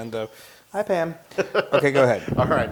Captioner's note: laugh